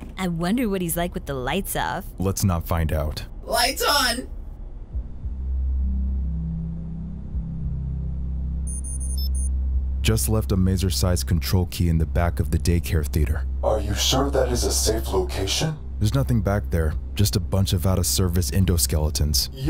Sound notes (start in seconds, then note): 4.2 ominous music; 8.6 beeping